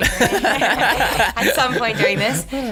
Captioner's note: laughs